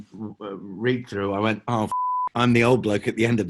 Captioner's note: beeping